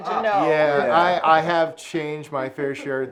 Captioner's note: laughs